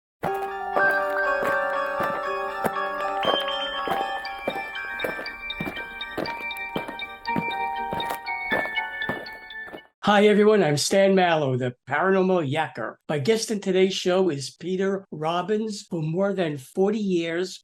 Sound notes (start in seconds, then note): 0.2 eerie music; 5.7 aliens marching